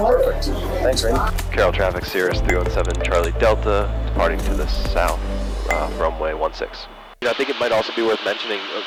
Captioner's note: radio traffic